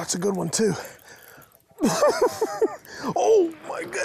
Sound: giggles

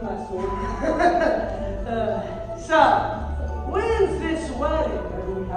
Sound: chuckles

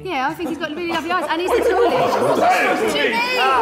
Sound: Sidemen laughing

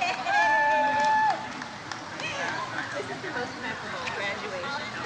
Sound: audience cheers

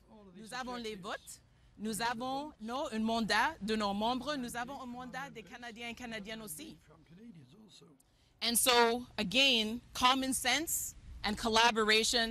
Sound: speaking French

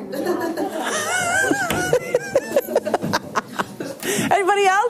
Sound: teacher laughing

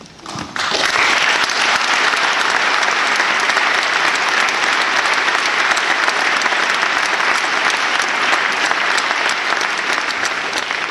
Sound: aplause

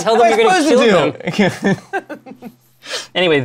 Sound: laughter

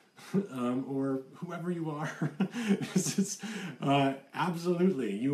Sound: laughs

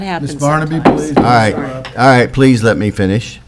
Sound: gavel taps

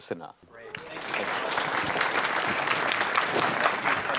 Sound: applause

